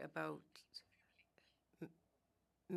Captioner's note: speaking French